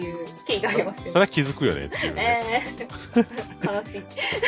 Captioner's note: laughter